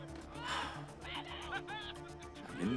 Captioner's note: man laughs